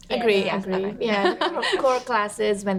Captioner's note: women agreeing